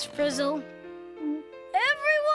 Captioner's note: gulps